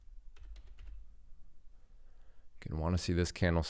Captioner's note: keyboard clicking